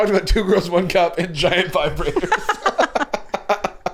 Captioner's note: laughing